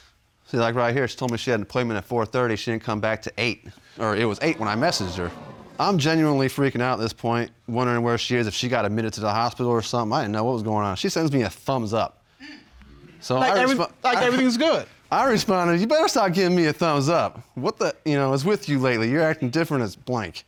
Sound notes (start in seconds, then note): 4.0 audience gasps